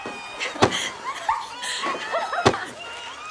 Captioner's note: laughter